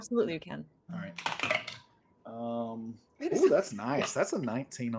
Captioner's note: rolls dice